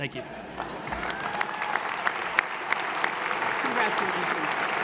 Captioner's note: applause